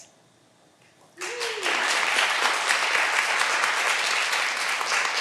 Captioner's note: all applauding